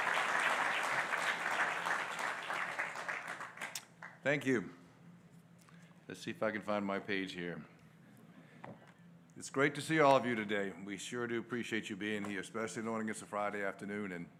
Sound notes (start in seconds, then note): 4.1 applause